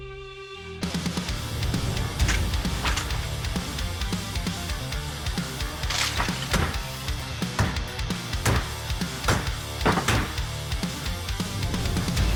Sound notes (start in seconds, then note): 6.7 chopping